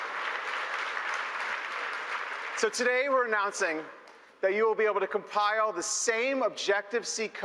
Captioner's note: applause